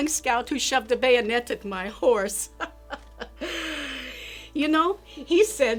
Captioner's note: laughs